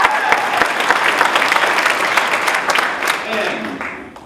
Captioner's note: applause